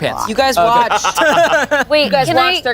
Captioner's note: everyone laughs